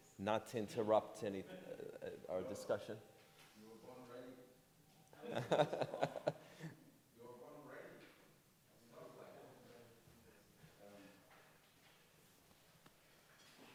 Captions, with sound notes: not to interrupt any, our discussion. - You were born ready? (laughing)